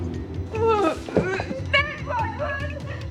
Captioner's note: sobbing